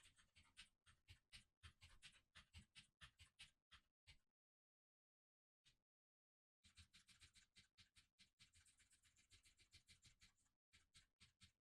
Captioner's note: keyboard sounds